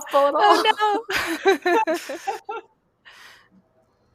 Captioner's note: laughter